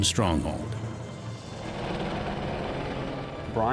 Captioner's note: helicopter